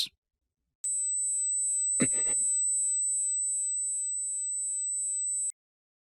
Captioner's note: tinnitus